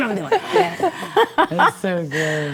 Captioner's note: ladies reacting